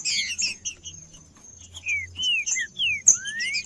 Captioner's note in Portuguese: trinca ferro cantando